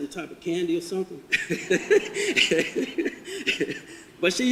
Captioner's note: audience laughter